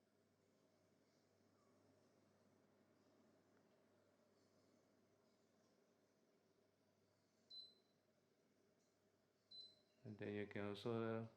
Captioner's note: aircon beeping